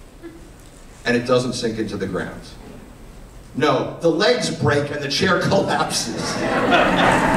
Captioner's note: laughter